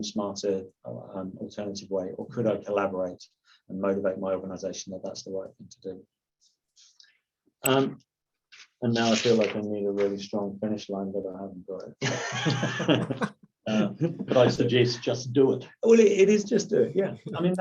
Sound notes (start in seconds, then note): 12.0 laughs